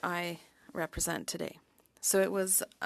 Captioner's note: speaking french